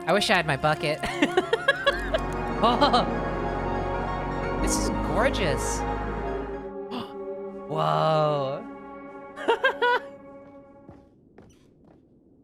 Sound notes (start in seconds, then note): 1.0 music swells; 1.0 laughing; 8.6 gasps; 9.4 laughs; 10.6 music stops